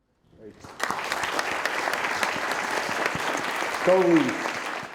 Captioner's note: all applauding